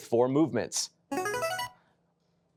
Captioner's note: buzzer chimes